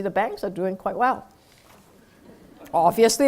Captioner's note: laugh